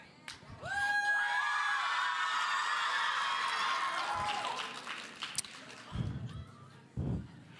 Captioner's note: audience cheering; audience applauding